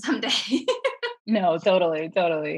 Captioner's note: laughing